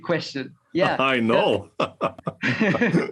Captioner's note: laugh